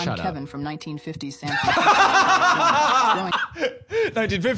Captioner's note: both laughing